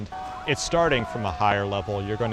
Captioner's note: onlookers shouting